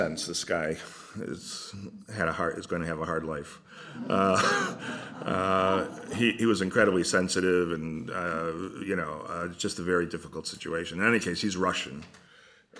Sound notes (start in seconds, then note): 3.8 laughter